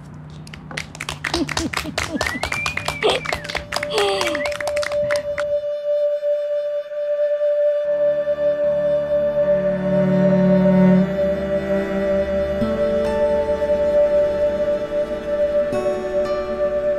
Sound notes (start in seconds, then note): 0.3 clapping; 6.5 relaxing instrumental music